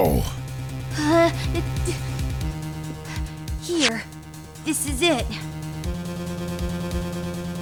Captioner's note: sniff